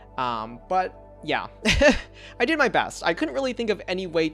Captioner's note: laughs